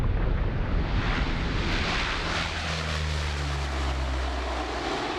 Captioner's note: plane engines buzzing